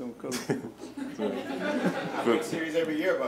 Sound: laughing

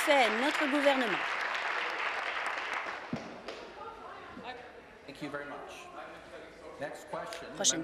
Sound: applause

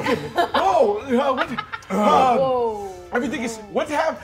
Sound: laughs

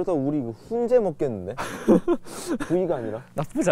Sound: laughing

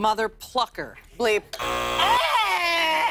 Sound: buzzer

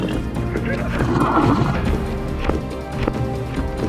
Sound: hoof tapping; creature whinnying

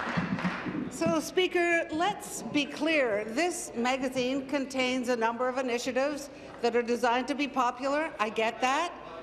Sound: applause

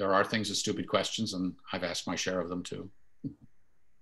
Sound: chuckles

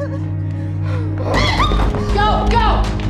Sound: sobbing; screaming

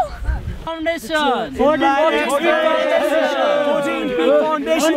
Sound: cheering

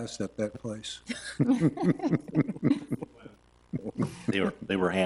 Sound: trustees chuckle

